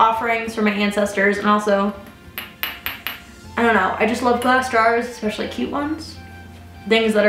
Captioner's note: ring tapping on glass